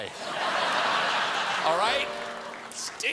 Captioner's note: laughter